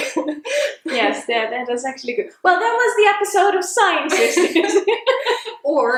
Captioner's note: both laugh; both laugh